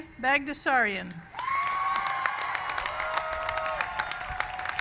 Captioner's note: applause